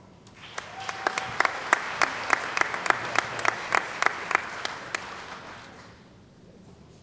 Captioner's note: applause